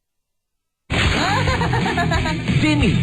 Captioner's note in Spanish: risas